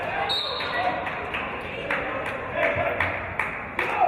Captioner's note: referee's whistle